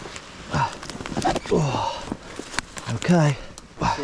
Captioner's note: grunting